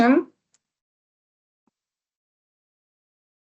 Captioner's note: silence